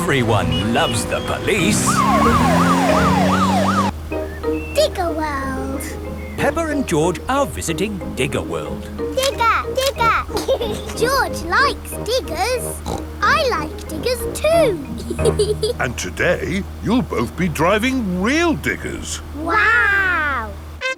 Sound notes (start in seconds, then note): 2.4 siren wailing; 10.6 laughs; 12.5 snorts; 15.2 laughs